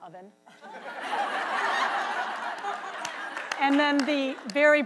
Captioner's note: audience laughs loudly